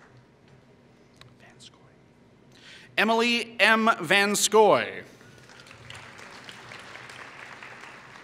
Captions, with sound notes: Emily M. Vanscoy [Applause]